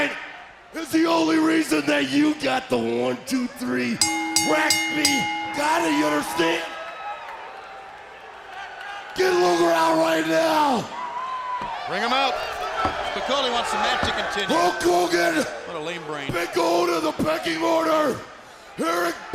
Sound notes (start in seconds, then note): 4.0 bell ringing; 7.2 crowd chatter